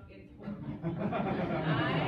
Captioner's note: laughter